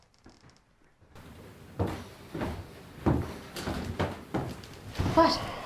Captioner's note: footsteps